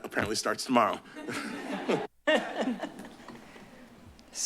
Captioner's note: laugh